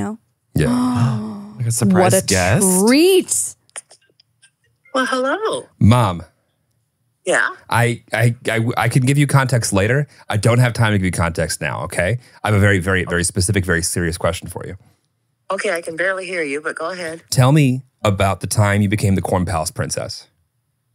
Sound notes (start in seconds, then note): 1.9 laughs